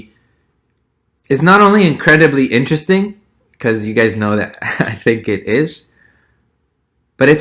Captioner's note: laugh